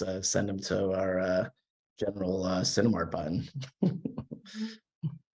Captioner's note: chuckles